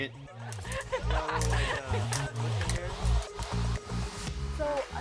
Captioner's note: all laughing